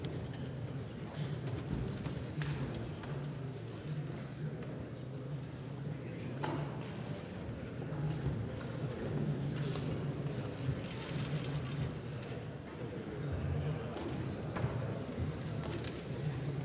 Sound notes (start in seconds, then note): none